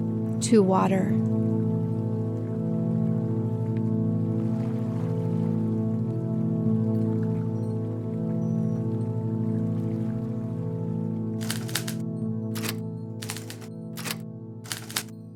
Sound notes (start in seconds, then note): 5.9 gentle music; 12.0 typewriter clicking